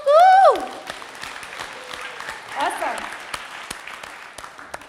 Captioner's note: all applaud